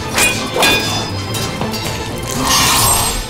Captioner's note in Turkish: Dövüş sesleri